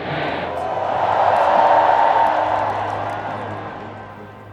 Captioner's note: crowd cheering